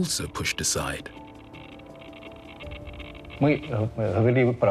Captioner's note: device crackling